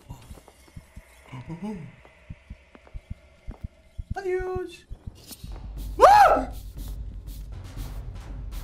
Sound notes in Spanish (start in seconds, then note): 6.0 Grita